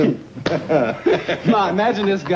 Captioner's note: Alvin and Fred laughing